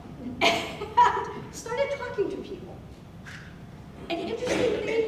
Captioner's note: laughing